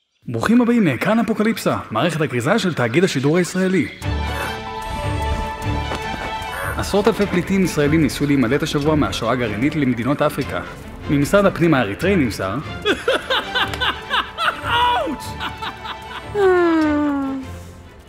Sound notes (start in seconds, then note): 12.8 sarcastic Laughter; 16.3 loud sigh